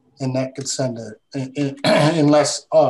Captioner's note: clears throat